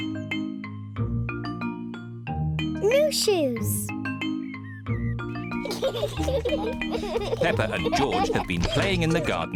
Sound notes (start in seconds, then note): 5.5 both giggling